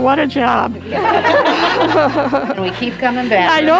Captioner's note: nurses laugh